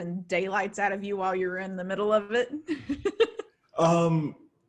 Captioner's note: laughs